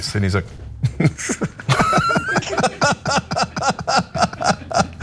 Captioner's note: laugh